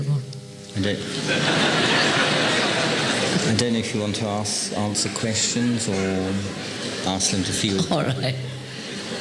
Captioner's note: laughter